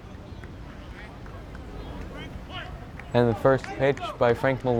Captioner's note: players yelling